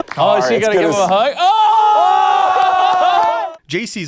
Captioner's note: all, yelling